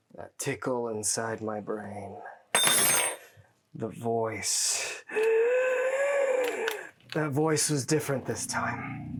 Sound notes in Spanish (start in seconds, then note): 5.1 Sibilancias